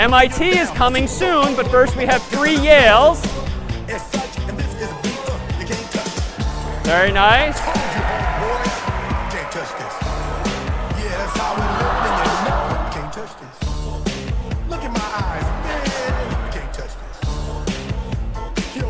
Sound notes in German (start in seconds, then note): 3.7 singt; 7.6 applaus; 8.4 singt